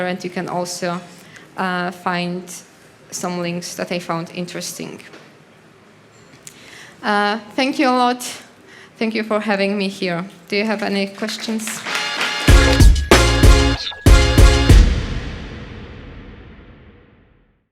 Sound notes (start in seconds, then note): 11.4 audience applauding; 12.2 upbeat music